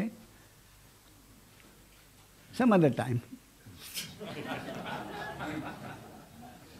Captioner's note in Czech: smích